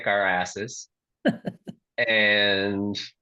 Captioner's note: laughs